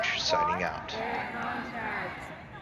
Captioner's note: chanting